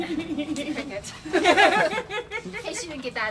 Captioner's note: laughs